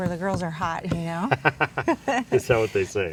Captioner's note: laughs